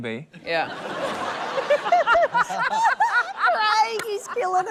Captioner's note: laughter